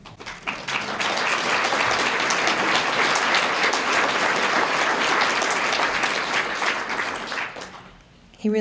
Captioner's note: applause